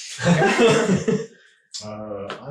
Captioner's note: laughing